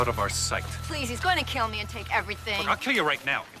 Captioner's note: lock buzzing